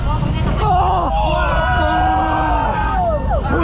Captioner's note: screams